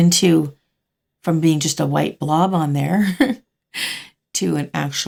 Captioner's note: laughing